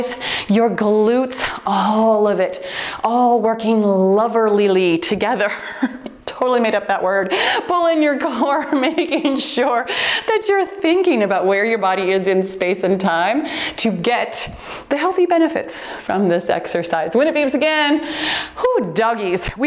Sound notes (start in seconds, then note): 5.6 laughs